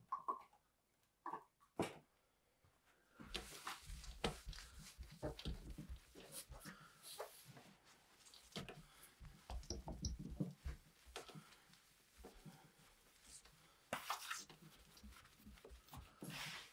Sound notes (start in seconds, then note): 3.2 cloth rustling